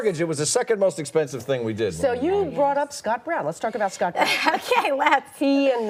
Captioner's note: laughter